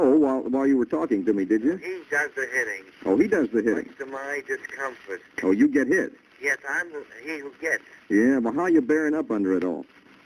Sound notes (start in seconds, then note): 2.1 on phone